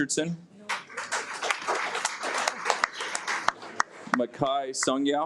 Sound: audience applauds

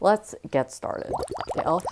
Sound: bubbles

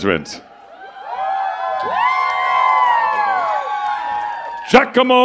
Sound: cheers and applause

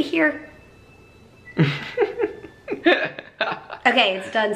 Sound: chuckling

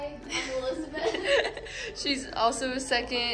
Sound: laughter

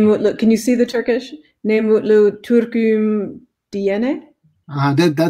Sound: turkish language

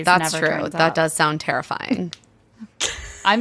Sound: laughing

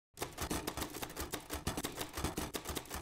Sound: typing

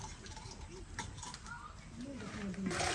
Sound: boiling

